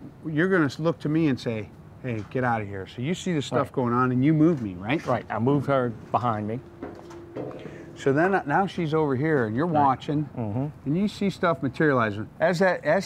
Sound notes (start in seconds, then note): none